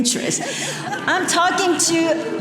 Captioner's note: audience laughing